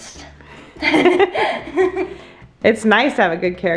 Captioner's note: both laugh